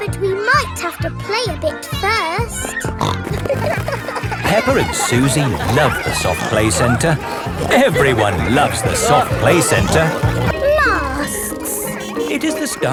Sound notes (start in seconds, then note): 3.0 snorting; 10.5 bell ringing